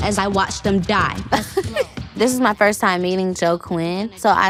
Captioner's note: laughs